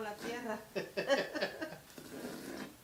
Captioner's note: laughing in Salvadoran